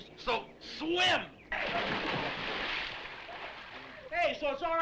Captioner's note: water splashes